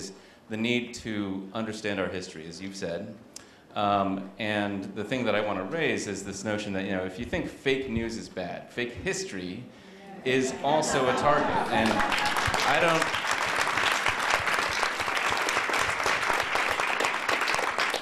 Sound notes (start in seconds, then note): 8.3 chuckles; 11.5 applause